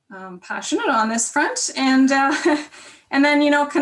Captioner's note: chuckles